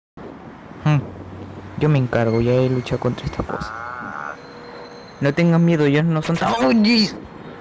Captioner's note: Wefgar yells